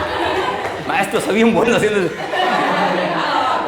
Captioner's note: laughter; speaking in foreign language; laughter intensifies